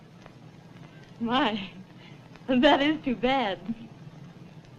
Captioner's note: laughs